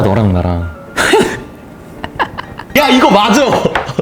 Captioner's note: Suddenly, he laughs like Joker